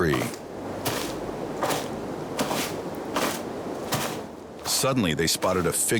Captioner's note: undergrowth crunching